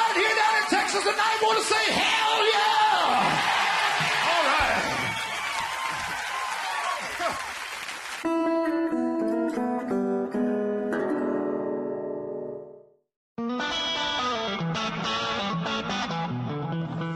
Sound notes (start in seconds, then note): 9.7 laughing; 11.3 country roots music